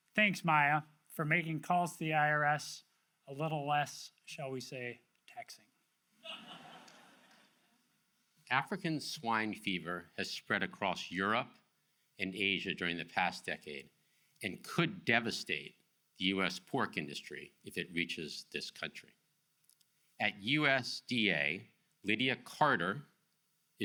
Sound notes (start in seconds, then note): 6.2 audience laughs